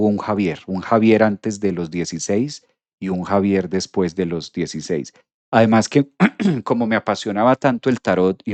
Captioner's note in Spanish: carraspeo